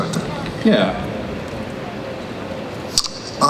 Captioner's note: voiceover